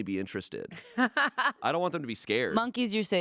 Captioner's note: laughing